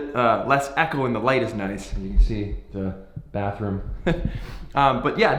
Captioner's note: laughs